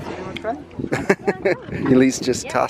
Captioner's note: laughing